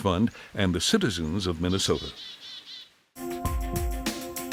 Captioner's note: birds chirping; bright music